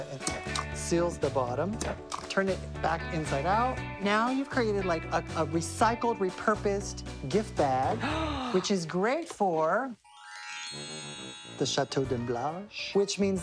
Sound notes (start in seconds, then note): 8.0 gasps